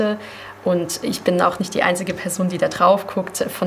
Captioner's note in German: none